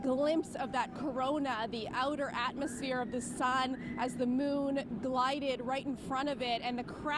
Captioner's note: none